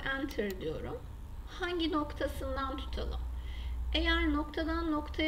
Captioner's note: right mouse click